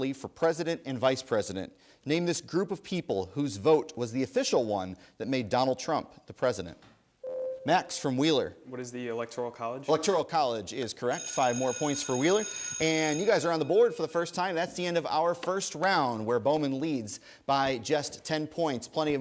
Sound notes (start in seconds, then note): 7.2 ding; 11.1 bell rings